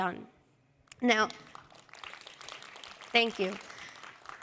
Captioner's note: applause